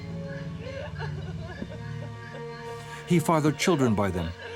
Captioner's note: woman crying